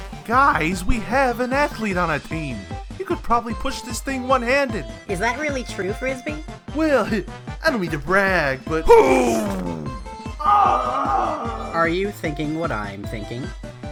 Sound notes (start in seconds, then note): 10.4 Frisbee screams in exertion